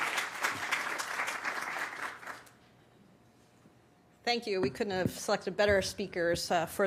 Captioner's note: applause